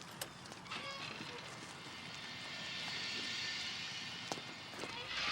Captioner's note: door creaking